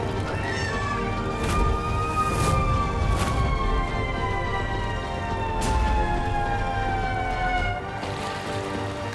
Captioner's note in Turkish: İnliyor; Siren sesi çalıyor